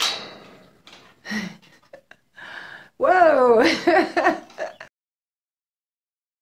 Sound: laughter

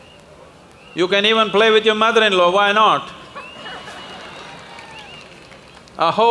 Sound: laughter/Applause

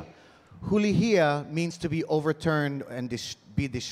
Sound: speaking in Hawaiian

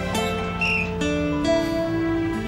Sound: whistle blowing

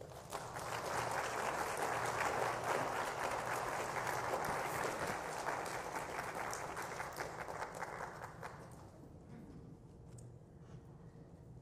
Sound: applause

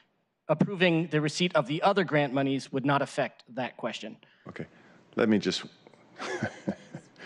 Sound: laughter

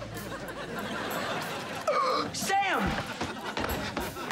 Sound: gasping

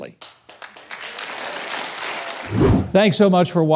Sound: audience applauding

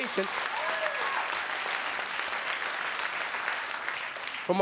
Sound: audience cheering

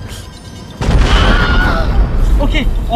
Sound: boom!, Wilhelm scream

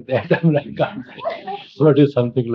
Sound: laughs

